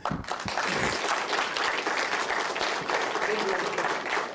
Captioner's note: applause